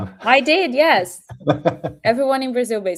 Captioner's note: laughs